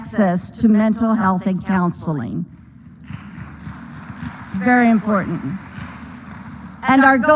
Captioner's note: applause